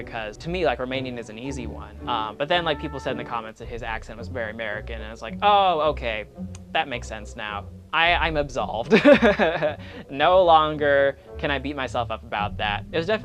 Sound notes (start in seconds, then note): 8.9 laughs